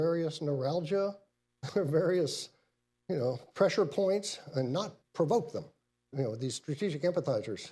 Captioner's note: laughs